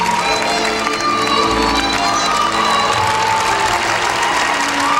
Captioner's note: crowd cheering